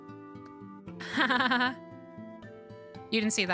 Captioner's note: unconvincing Laughter